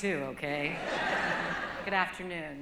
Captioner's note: laughter